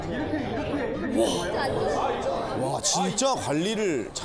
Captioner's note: gasps